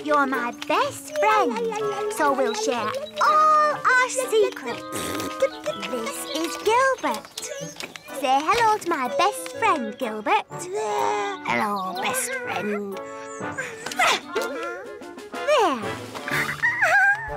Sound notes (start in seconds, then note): 5.6 rasps / babbles